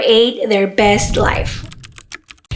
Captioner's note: whoosh; typing